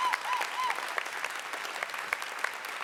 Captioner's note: applause